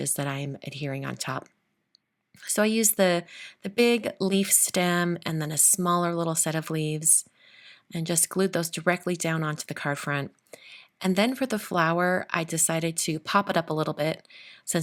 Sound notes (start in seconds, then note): none